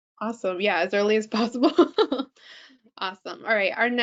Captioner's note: laughing